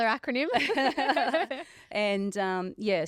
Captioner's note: all laughing